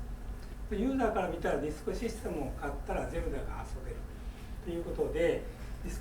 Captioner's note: speaking in foreign language